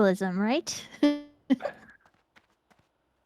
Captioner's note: laughs